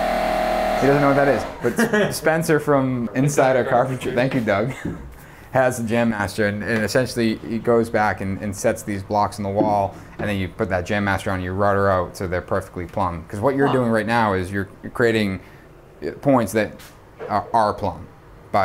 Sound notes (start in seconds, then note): 1.5 man laughs